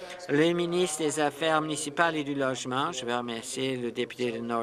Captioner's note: applause